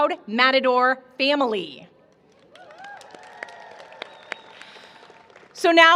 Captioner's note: cheering